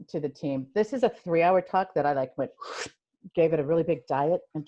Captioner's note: suction sound